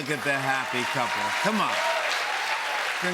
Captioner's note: cheers and applause